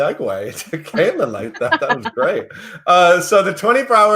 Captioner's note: laughs